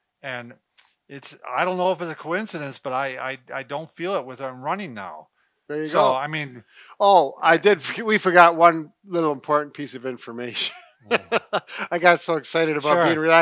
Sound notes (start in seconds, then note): 10.6 laughs